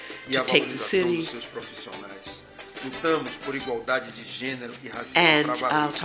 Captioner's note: speaking portuguese